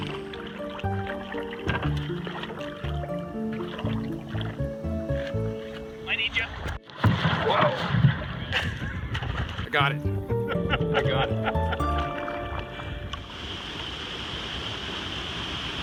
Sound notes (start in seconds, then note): 5.5 gentle music; 5.5 water trickling; 8.6 water splashing; 10.3 laughing